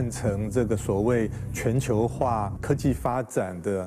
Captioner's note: speaking chinese